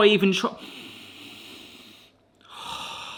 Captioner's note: inhales; exhales